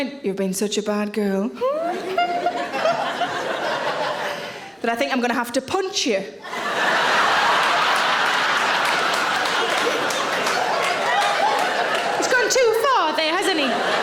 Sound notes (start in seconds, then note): 1.6 Sarah giggles; 6.4 audience laughing; 6.7 audience applauds